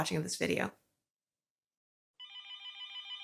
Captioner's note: telephone ring